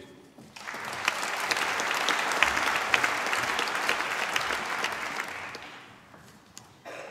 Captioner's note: applause